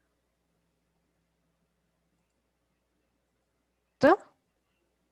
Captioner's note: audio silence